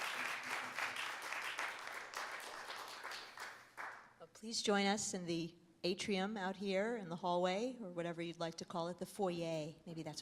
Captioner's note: applause